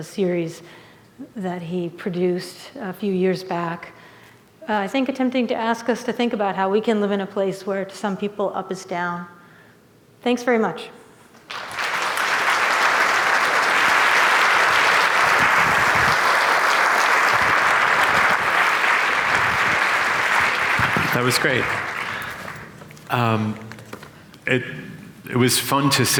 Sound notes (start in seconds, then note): 11.4 applause